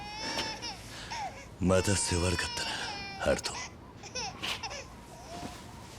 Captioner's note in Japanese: 泣き声